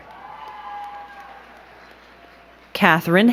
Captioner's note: crowd cheering and clapping